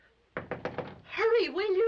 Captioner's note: knocking